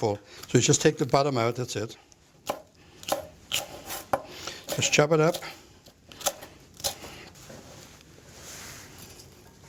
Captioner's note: chopping